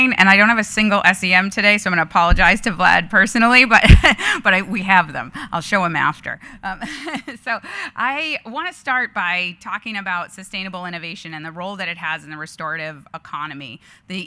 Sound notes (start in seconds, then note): 6.7 chuckling